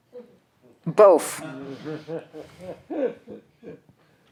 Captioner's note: laughs